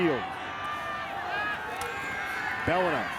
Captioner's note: spectators cheering